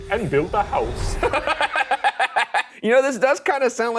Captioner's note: laughing